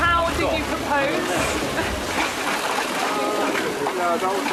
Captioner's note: clatter of shutters